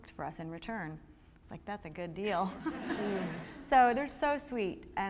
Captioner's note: laughter